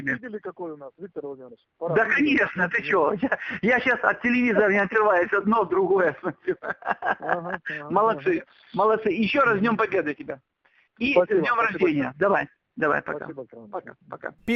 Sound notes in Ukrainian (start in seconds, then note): 6.1 сміється